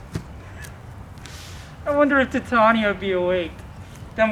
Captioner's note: none